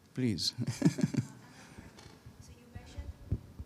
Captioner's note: chuckles